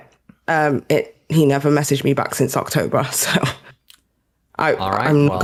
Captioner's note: laughs